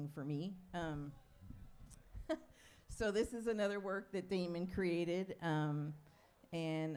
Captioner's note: chuckles